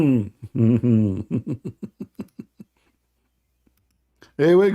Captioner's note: Ketawa